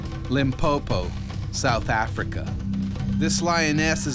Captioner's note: voiceover